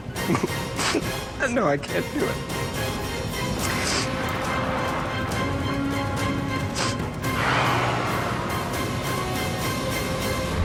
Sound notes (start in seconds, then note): 0.7 sniffles; 5.8 sniffling; 7.3 tires squealing